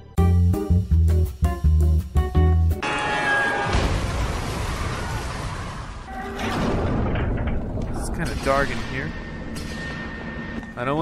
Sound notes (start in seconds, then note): 0.1 jazz music; 2.8 crash